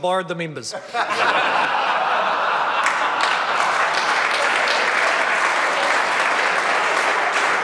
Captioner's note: members laugh